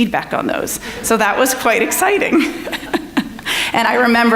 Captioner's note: laughing; audience laughing